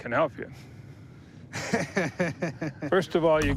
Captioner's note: laughs